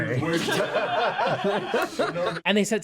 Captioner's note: all laugh